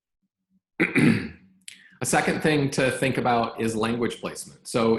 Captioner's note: clears throat